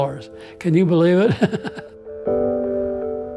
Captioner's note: laughs